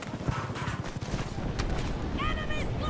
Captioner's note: bullets clanging